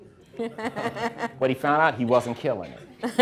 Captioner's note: everyone laughing